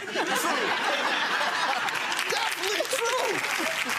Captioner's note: laughing